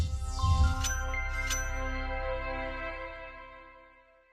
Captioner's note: electronic beaming